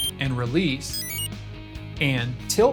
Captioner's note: exit chime